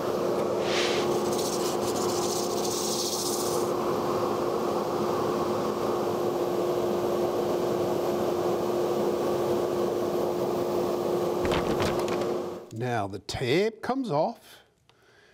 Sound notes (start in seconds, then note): 0.4 sanding, dust collector whirring